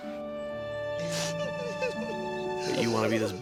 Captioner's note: Rizzo sobs